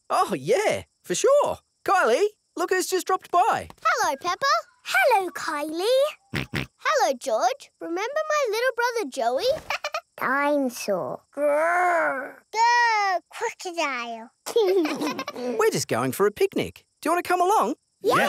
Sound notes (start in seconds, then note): 6.3 snorts; 9.7 chuckles; 14.8 both laugh